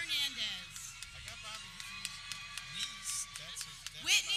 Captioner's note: people cheering